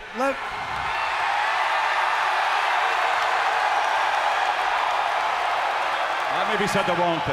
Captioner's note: crowd cheering